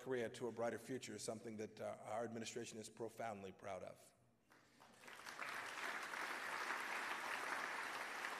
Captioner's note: applause